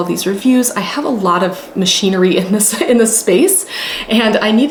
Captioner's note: laughing